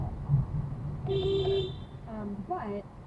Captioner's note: beepBeepBeep